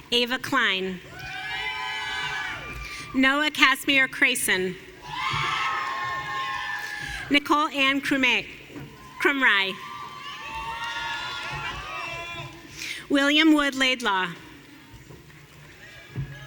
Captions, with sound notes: Ava Klein. (audience cheering) Noah Kasmir Cresson. (audience cheering) Nicole Ann Cremi. (audience cheering) William Wood Laidlaw.